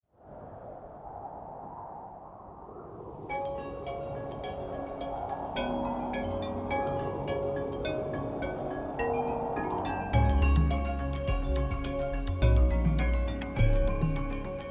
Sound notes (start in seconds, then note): 0.3 air whooshing; 3.7 upbeat music